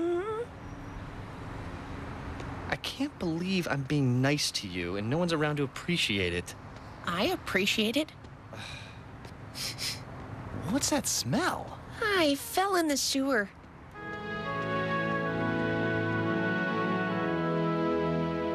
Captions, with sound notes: I CAN'T BELIEVE I'M BEING NICE TO YOU AND NO ONE'S AROUND TO APPRECIATE IT. I APPRECIATE IT. ( sighing ) ( sniffing ) WHAT'S THAT SMELL? I FELL IN THE SEWER.